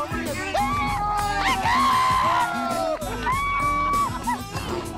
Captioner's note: cheering and laughing